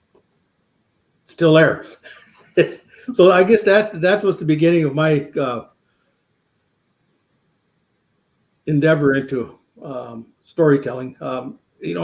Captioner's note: laughs